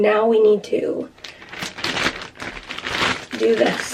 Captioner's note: plastic crinkling